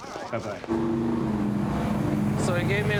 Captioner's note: engine purring